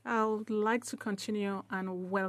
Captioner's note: speaking French